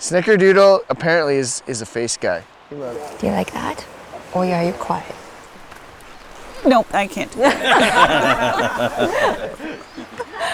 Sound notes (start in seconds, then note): 6.2 all laughing